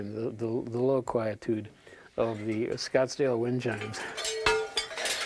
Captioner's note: metal clattering